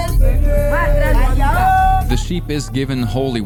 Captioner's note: women chanting